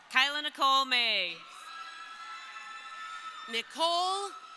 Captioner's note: crowd cheering